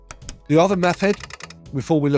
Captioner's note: typewriter clacking